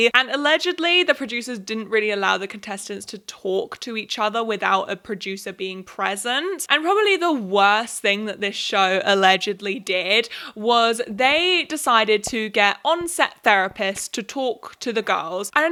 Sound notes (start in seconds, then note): none